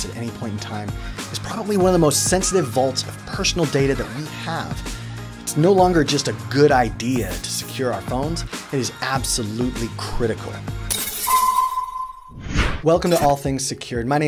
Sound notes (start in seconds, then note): 11.0 clattering sounds; 12.1 whooshing